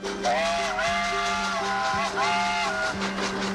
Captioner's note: whistle blows